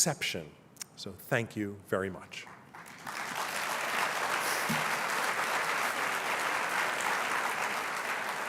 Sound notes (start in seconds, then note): 2.4 applause